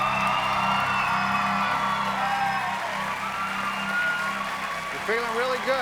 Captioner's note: cheers and applause